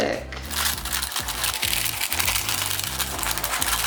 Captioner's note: snipping